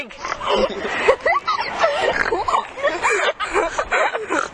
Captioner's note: laughter